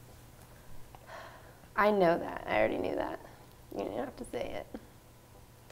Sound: sigh

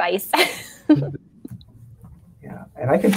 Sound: laughs

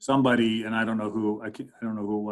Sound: man laughing

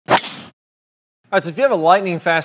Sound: golf club whooshes

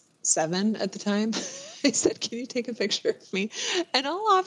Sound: laughs

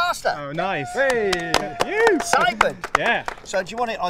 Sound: clapping

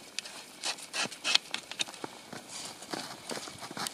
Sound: probe crunching

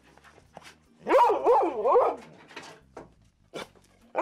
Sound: dog barking

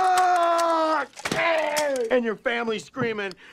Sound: impact

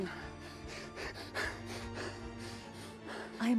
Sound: panting

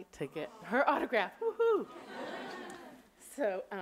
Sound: audience laughing

